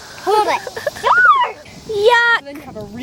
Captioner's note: screams